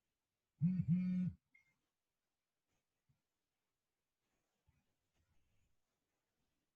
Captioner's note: phone vibrates